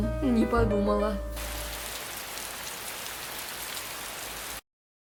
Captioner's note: rain